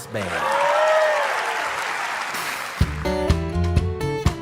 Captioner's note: audience applauds; acoustic guitar